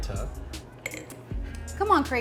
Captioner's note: glass clinks